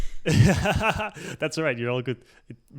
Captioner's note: laughs